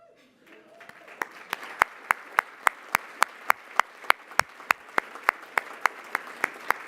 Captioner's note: applause